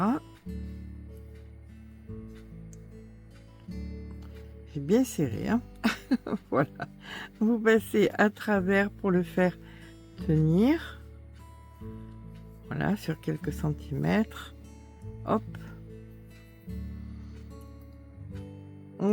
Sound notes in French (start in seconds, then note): 5.8 rires